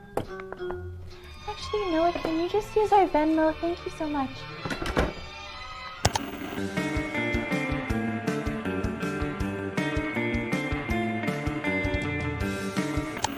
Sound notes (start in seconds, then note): 6.1 ka-chunk; 6.1 static; 6.3 surf rock music